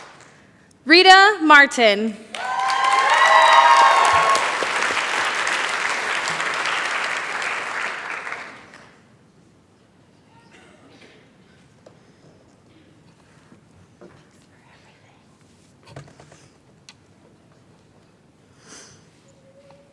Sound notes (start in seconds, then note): 2.2 cheering, applause